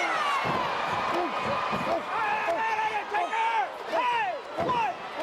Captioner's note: crowd chattering